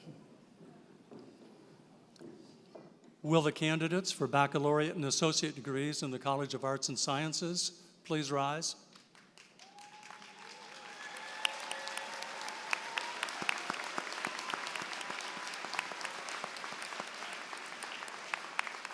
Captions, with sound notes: Will the candidates for baccalaureate and associate degrees in the College of Arts and Sciences please rise? [APPLAUSE]